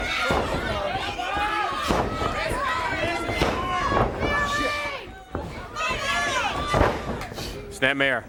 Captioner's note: crowd chatter